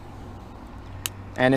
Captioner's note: click